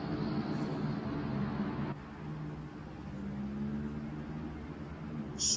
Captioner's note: noisy city